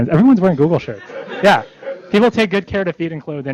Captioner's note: laughter